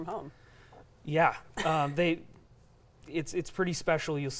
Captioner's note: laughing